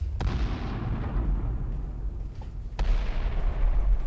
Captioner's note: bombs rumbling